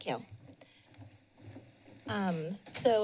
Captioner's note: pause